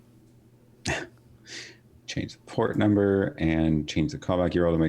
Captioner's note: laughing